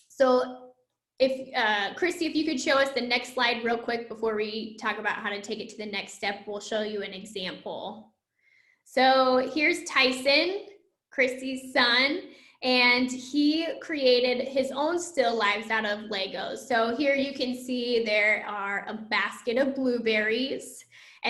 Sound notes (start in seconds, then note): none